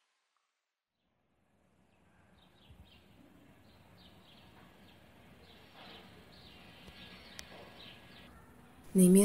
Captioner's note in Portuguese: A atmosfera de uma manhã calma surge, com pássaros ao fundo